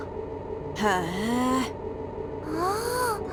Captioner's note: bemused hum